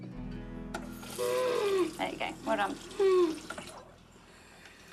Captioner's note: water runs